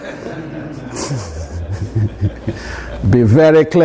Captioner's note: audience laughs